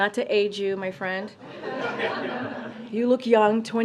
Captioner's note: laughter